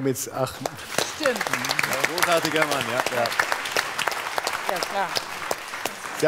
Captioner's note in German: Applaus